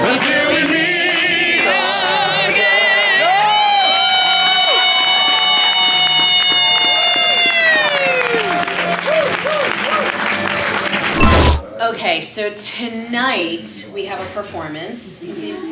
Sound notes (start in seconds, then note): 3.7 cast cheers and applauds